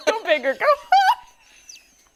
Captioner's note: laughter